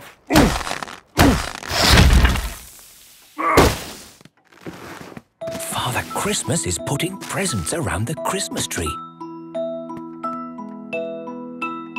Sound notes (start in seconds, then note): 3.5 grunting; 5.7 narrator whispering